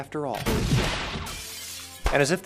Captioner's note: gunshot; shattered glass